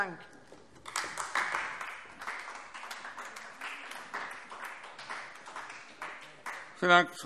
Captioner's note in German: Beifall AfD